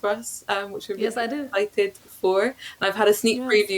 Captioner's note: audio distorts